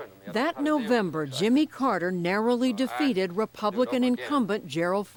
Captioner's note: voice-over